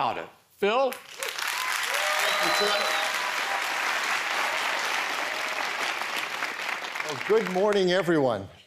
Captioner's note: applause